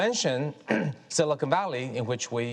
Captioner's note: Kai-Fu coughs